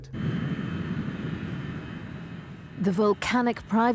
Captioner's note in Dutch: vliegtuigmotor rommelt